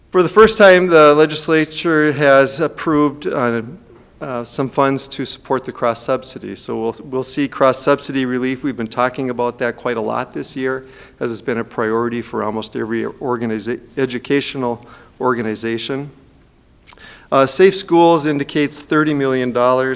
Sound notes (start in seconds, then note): none